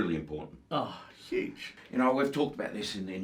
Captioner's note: scoffs